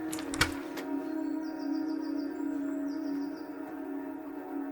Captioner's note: birds chirping